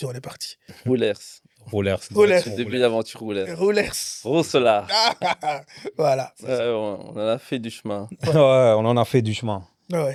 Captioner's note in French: rires